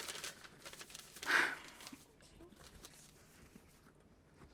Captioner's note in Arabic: تنهد